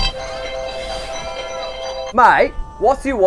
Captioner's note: obnoxious ringtone